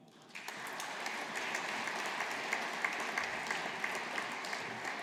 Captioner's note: audience applauding